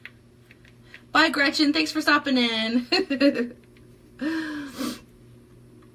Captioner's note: chuckles